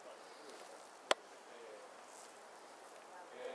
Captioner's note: people chatting